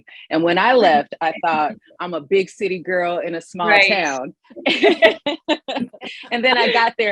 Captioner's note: laughs